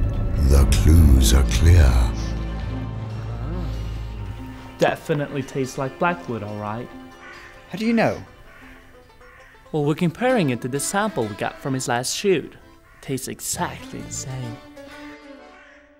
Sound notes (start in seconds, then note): 3.3 sexual moan